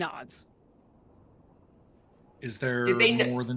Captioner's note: wind whooshing faintly